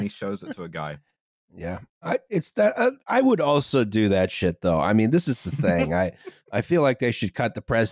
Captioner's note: stammers